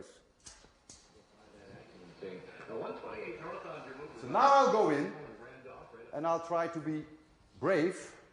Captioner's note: radio